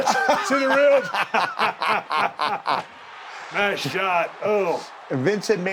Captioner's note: laugh